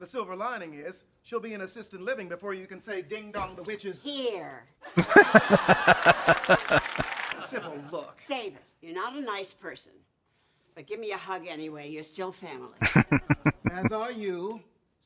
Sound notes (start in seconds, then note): 5.0 laughing; 12.8 chuckling